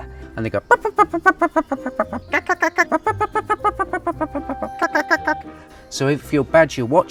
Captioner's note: imitates badger noise